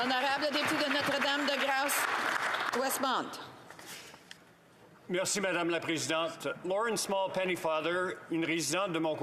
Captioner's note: some Applause